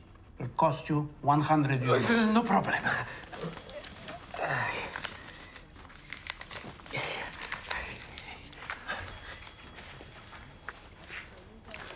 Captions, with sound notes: It will cost you €100. No problem. [Grunts] Here.